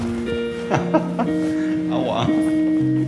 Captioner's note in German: Er lacht